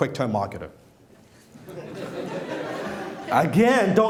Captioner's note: laughing